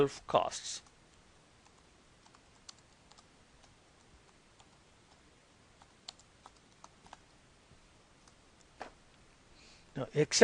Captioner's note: typing